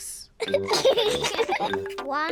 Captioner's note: both giggle